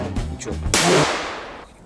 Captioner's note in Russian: взрыв